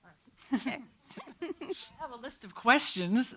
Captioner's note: laughing